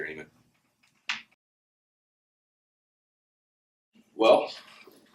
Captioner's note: silence